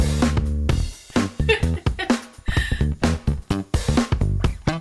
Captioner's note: laughs